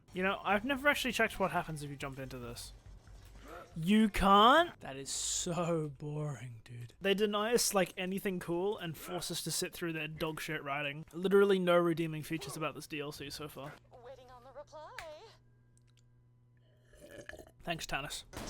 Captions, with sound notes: You know I've never actually checked what happens if you jump into this. You can't!? That is so boring dude. They deny us anything cool and force us to sit through their dogshit writing. Literally no redeeming features about this DLC so far. *loud sipping* Thanks Tannis.